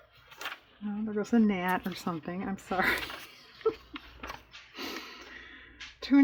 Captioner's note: laughs